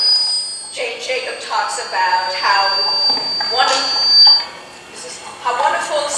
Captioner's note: microphone feedback